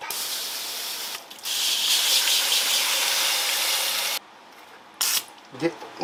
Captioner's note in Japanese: シャワー音